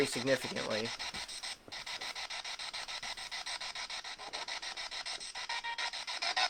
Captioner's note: scanning